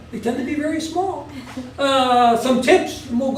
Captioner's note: laugh